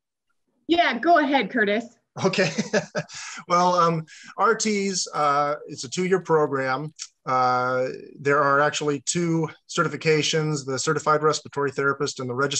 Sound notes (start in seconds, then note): 2.8 laughs